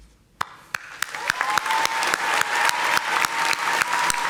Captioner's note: audience applauding